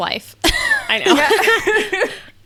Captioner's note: laughing